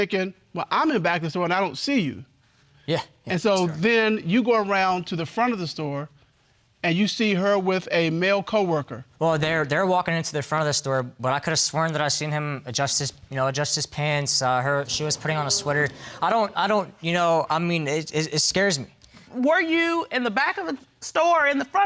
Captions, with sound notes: And you're thinkin', "Well, I'm at the back of the store and I don't see you." Yeah. So, then, you go around to the front of the store, and you see her with a male co-worker. Well, they're walking into the front of the store, but I could've sworn that I seen him adjust his pants. Saw her, she was putting on a sweater. (STAMMERING) I don't... You know, it scares me. Were you in the back of the store